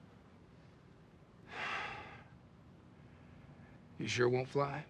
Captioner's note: sigh